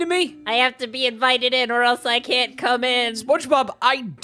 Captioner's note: Spongebob voice